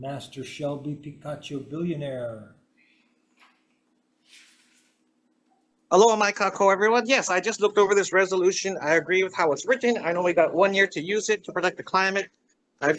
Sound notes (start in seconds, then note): 6.2 greets in Hawaiian